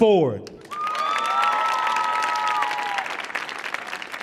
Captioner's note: audience cheering